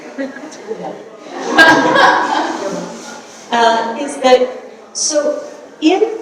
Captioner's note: audience laughing